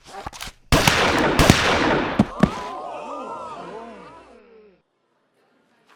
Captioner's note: gunshots firing; crowd gasping